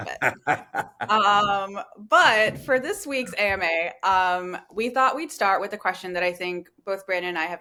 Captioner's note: laughter